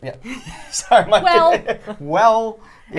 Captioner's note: laughs